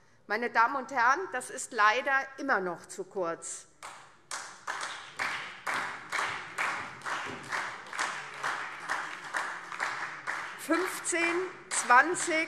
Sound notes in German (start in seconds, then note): 4.2 Beifall SPD und DIE LINKE